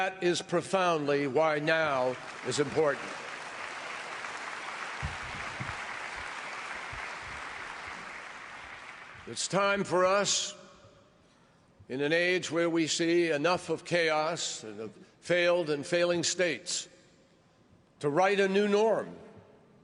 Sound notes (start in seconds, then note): 7.0 applause